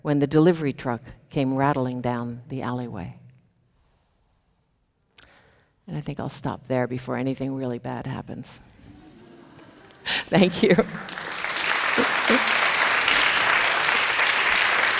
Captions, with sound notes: when the delivery truck came rattling down the alleyway. And I think I'll stop there before anything really bad happens. (chuckles) Thank you. (audience applauding)